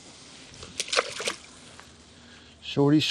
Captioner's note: water plash